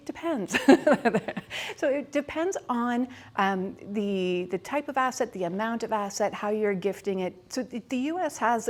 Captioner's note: laughs